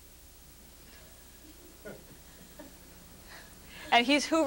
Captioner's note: laughter